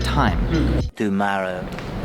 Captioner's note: Spongebob voice